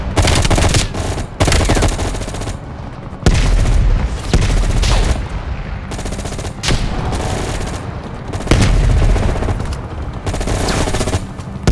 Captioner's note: gun fires